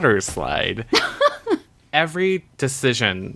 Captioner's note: laughs